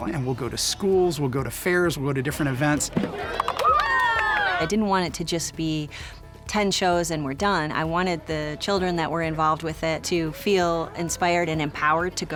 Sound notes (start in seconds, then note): 3.0 people cheering